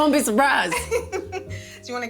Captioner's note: laughing